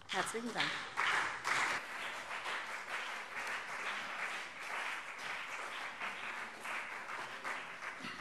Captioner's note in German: Beifall CDU und BÜNDNIS 90/DIE GRÜNEN